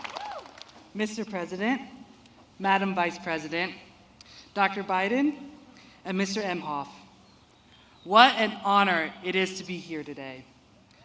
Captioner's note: applause and cheers